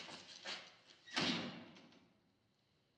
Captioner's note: door closes